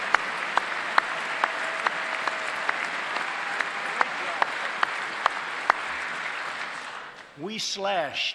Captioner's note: applause